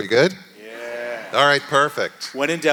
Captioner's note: audience laughing